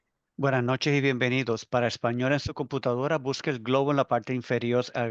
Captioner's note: interpreter speaking Spanish